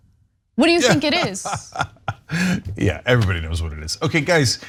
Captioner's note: laugh